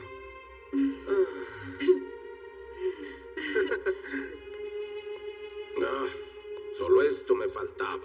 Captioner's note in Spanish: Imita suspiro